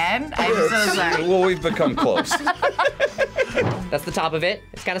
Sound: both laugh

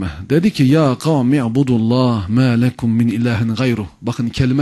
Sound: reciting the verse

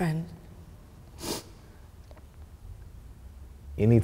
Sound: sniffing

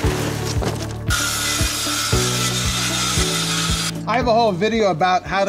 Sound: sawing

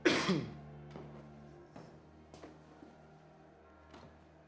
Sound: coughing; footsteps thumping

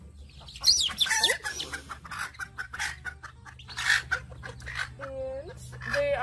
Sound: laughs; chickens squawking

